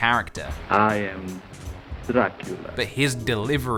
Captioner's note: Romanian accent